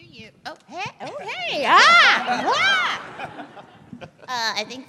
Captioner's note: laughter